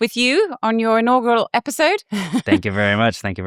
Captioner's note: laughs